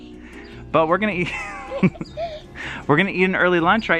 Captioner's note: laughs